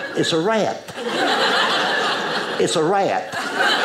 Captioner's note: audience laughing